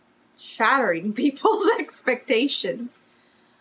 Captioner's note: laughs